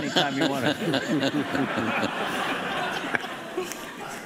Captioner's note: laughing